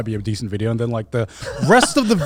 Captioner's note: laughs